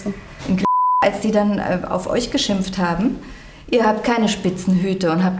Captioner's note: beep